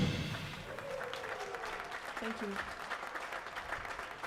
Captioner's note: audience clapping